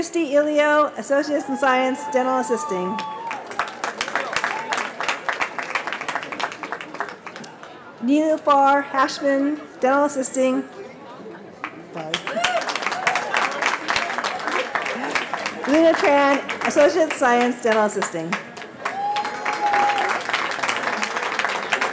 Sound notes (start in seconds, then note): 6.7 cheering; 12.1 cheering; 21.7 cheering